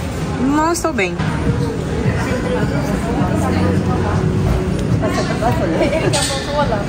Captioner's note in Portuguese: ambiência de mercado